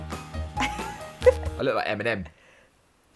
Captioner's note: laughs